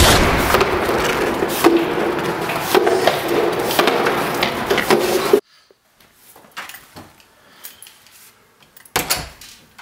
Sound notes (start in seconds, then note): 0.0 gunshot; 5.7 door opens and closes